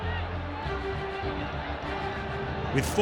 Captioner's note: crowd cheering